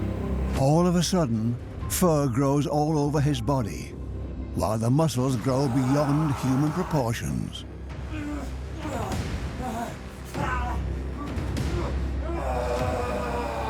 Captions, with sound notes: All of a sudden, fur grows all over his body, while the muscles grow beyond human proportions. (he groans) (groaning intensifies)